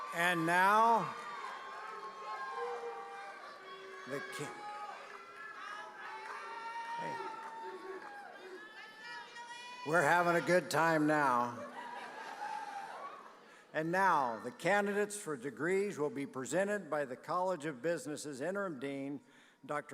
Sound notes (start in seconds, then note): 2.0 audience cheering; 11.6 audience laughing